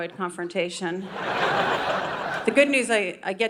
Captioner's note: audience laughing